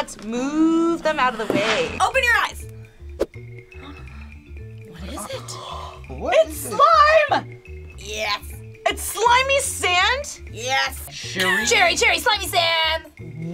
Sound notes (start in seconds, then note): 3.6 gasps